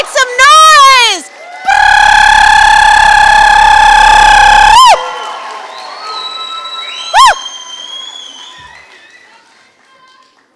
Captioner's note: applause and cheering